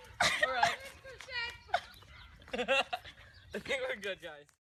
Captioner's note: people laughing